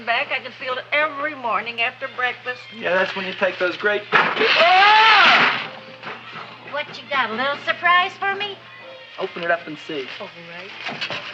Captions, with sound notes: I can feel it every morning after breakfast. - Yeah, that's when you take those great... (Seymour yells) - What you got, a little surprise for me? - Open it up and see. - All right.